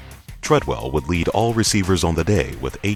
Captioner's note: voiceover